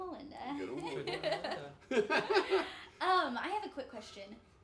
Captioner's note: laughing